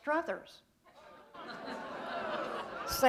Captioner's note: laughter